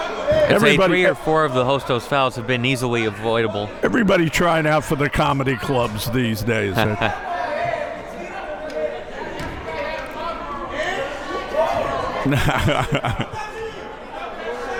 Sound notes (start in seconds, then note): 6.6 chuckles; 7.9 men murmuring; 12.2 laughs